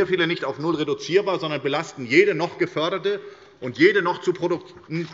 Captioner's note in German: none